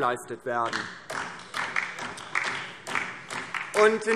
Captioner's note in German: Beifall DIE LINKE